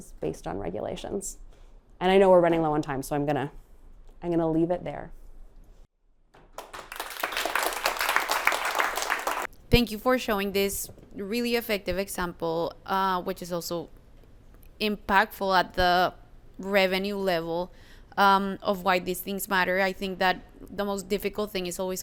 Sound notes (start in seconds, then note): 9.6 applause